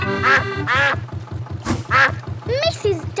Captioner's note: quacking